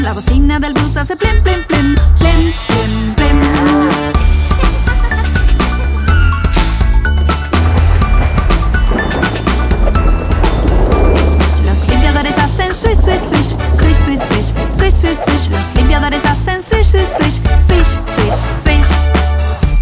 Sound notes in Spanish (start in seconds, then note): 4.0 Música Alegre; 4.0 Sonido de truenos y lluvia; 19.5 Música Alegre